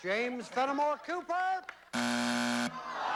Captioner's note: buzzer